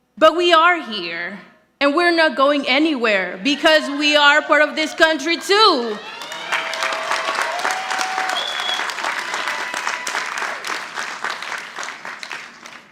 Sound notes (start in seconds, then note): 6.4 audience applauding